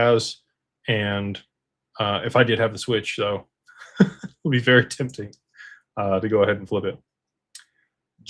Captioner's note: laughter